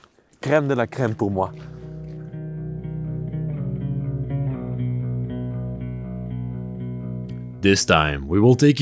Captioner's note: speaks French